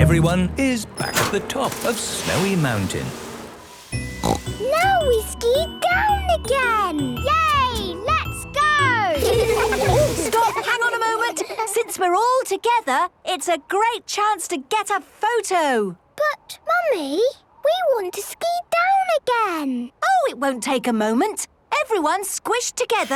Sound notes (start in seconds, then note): 4.0 snorting; 9.1 laughter